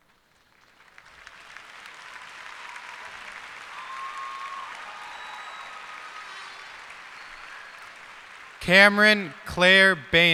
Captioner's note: applause